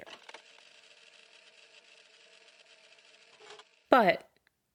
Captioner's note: projector sound